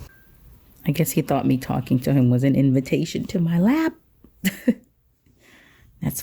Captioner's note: chuckles